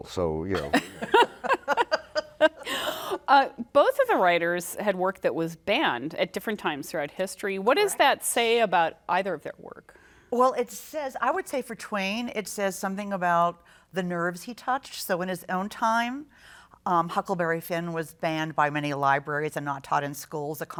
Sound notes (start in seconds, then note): 0.5 laughter